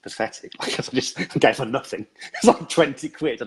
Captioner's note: laughs